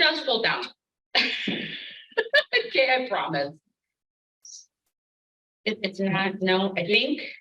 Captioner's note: laughs